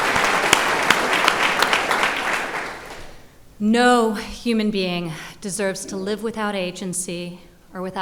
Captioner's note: applause